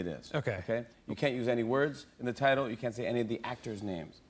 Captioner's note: none